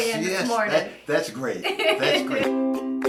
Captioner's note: laughs